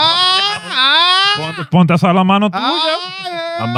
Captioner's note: speaking In Foreign Language